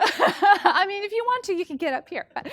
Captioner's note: woman laughing